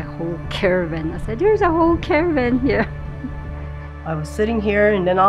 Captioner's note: chuckles